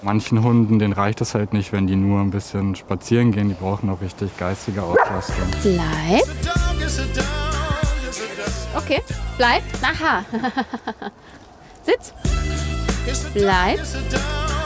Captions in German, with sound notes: Manchen Hunden reicht es nicht, wenn die nur spazieren gehen. Die brauchen auch richtige geistige Auslastung. Bleib! Okay. Bleib! Aha. (Lachen) Sitz! Bleib.